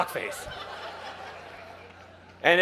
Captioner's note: crowd laughing